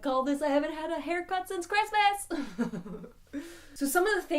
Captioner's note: giggles